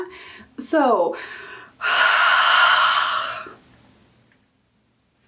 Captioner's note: dramatic sigh